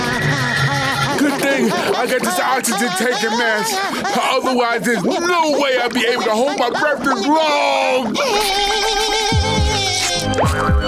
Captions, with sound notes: Good thing I got this oxygen tank and mask, otherwise, there's no way I'd be able to hold my breath this long! [whimpering]